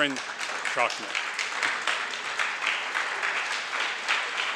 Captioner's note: audience applauds